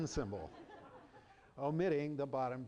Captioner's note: laughter